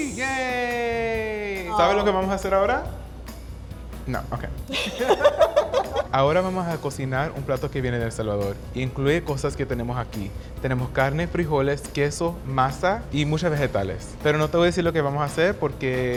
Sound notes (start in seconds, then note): 0.0 speaking Spanish; 1.9 speaking Spanish; 4.6 both laughing; 6.0 speaking Spanish